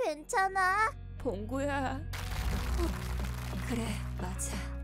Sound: audience clapping and cheering

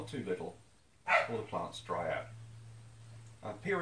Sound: bark

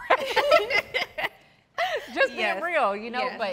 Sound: all laughing

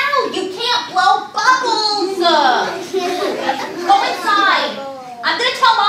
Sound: audience laughing

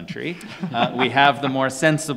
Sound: panelists laughing

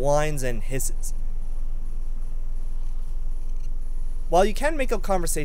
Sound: annoying Electrical Sounds

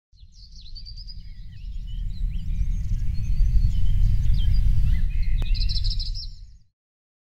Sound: birds chirping

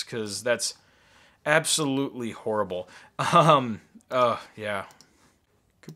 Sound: laughing

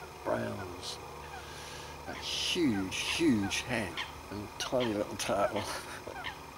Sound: laughter

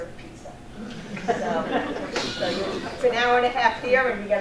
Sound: audience laughing

